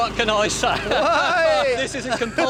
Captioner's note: laughs